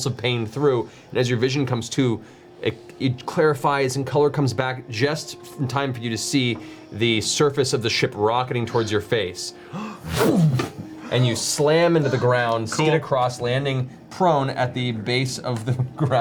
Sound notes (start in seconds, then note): 10.1 impact sound